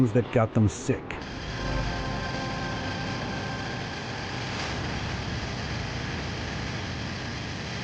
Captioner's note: gentle apprehensive music; engine whirring